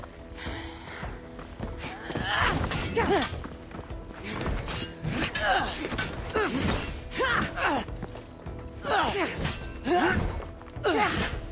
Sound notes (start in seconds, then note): none